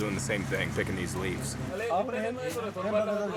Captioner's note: indistinct chatter